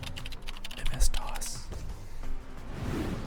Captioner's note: whispers